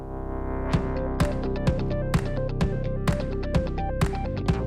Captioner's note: crowd sounds